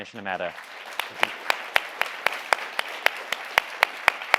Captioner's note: audience applauding